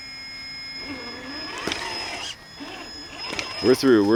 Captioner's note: engine roaring